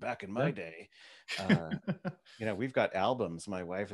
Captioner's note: laughs